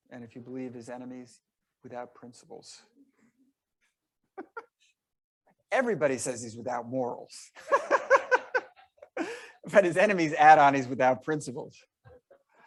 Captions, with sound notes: And if you believe his enemies without principles. (laughing) Everybody says he's without morals. (laughing) But his enemies add on he's without principles.